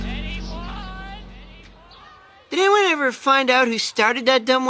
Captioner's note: echoing